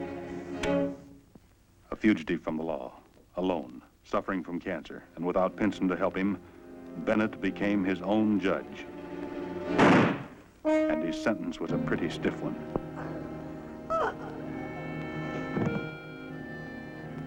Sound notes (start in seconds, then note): 9.7 gunshot bangs; 13.9 Slug groaning